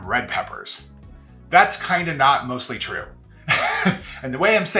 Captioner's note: laughs